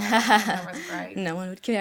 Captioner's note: laughs